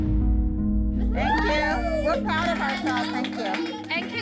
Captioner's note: dramatic music playing; cheers